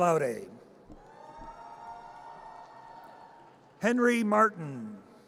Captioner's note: audience cheers